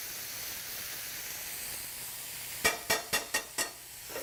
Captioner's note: sizzling